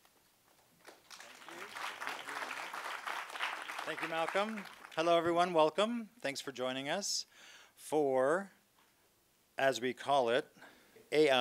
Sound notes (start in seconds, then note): 0.8 audience applauds